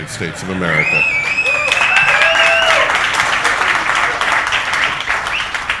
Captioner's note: audience applauding